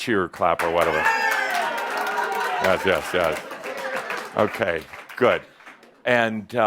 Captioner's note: some cheers and claps